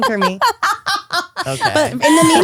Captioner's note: laughs